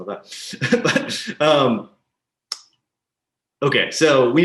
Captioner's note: laughing softly